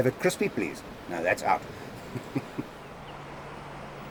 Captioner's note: laughs